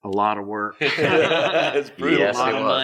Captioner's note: everyone laughs